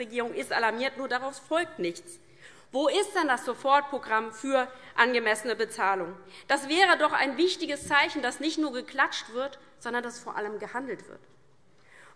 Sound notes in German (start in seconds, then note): none